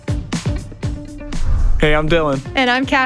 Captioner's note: upbeat music; air whooshes